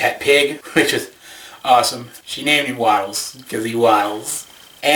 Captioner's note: chuckles